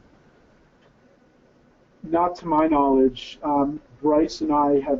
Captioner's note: voiceover